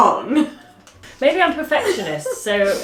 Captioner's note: laughing